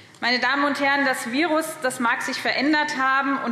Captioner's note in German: none